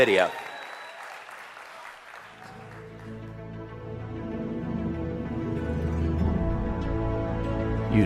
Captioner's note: เสียงปรบมือ